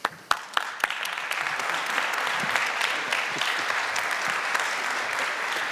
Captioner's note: applause